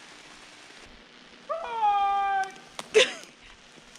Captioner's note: yelling